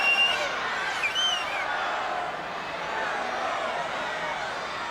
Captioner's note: crowd chattering